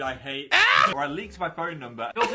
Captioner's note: squawks